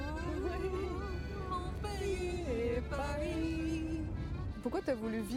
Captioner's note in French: en choeur